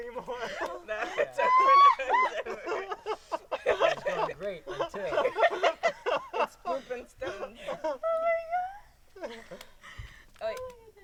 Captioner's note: crying laughter